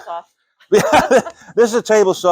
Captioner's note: laughing